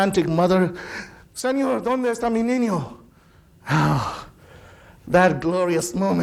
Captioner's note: speaking in foreign language